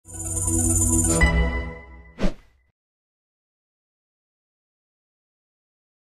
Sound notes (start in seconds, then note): 0.1 bright music; 2.2 whooshing